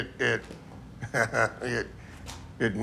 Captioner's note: laughs